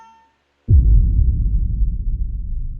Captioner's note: dramatic thud